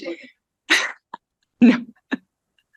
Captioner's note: laughs